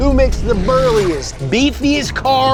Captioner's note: swoosh sound